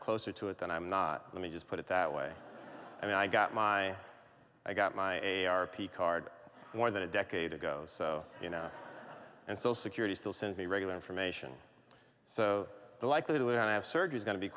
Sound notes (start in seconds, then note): 2.2 laughter